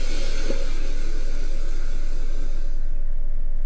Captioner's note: air hisses